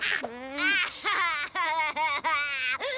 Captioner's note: boy laughing